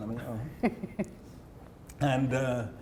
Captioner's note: laughing